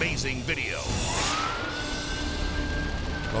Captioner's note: sirens blaring